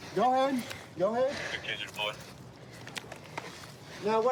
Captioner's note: radio cahtter